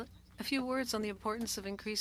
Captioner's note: speaking French